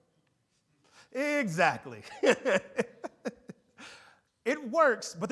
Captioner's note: laughs